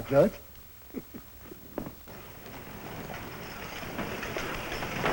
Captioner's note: chuckles